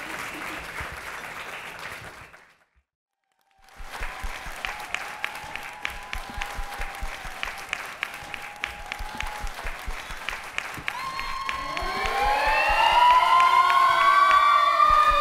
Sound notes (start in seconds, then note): 3.6 audience cheering; 3.6 audience clapping; 11.4 siren wailing